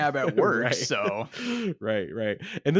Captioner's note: laughs